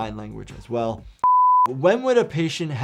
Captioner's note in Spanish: pitido en pantalla